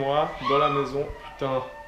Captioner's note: scream